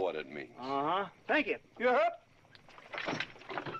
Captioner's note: shouting